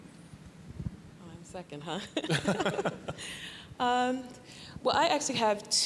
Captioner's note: laughing